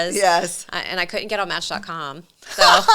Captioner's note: laughing